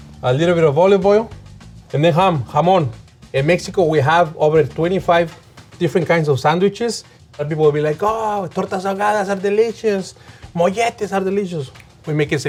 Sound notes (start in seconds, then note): 8.3 speaking in Spanish